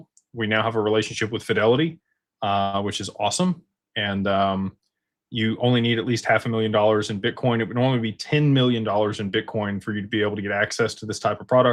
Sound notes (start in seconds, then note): none